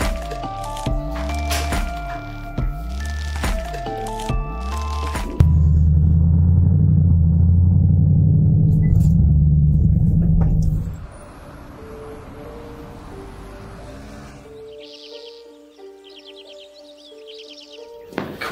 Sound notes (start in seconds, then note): 6.1 car engine humming; 12.5 mysterious music; 13.9 birds chirping